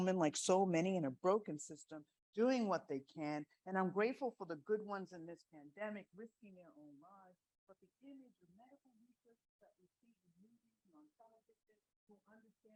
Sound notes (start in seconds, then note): 7.7 audio fades out